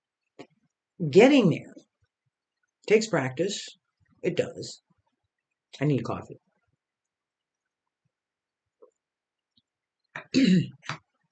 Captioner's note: I need a coffee. Sips coffee clears throat